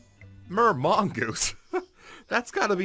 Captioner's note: chuckle